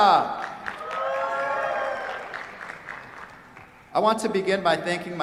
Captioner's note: cheers, applause